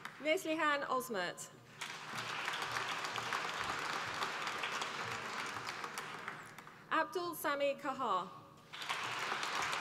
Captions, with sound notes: Neslihan Ozmert, (APPLAUSE) Abdul Sami Qahar, (APPLAUSE)